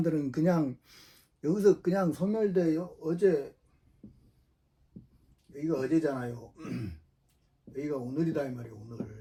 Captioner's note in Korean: 목을 가다듬음